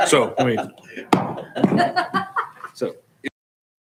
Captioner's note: laughing